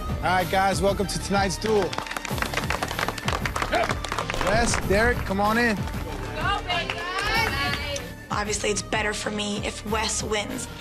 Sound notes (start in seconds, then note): 1.6 group clapping